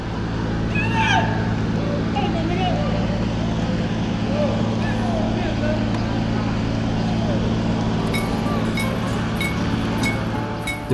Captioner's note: random screams again; 또 들려오는 괴성